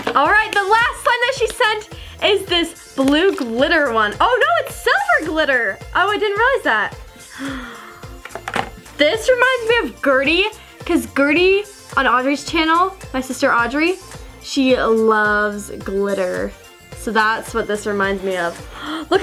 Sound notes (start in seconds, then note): 7.2 gasp